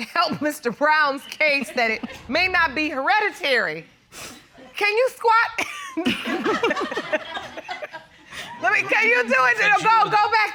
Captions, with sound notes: Mr. Brown's case that it may not be hereditary. -Can you squat? [laughs] -[audience laughs] Let me-- Can you do it? Go. Go back there.